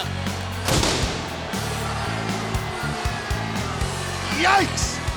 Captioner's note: pyrotechnics explode